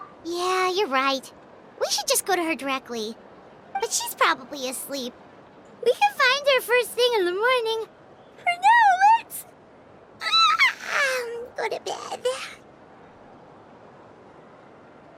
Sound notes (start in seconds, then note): 10.3 yawn